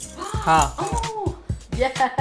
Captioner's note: measuring spoons clanking